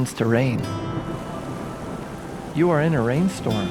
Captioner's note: rain softly rumbles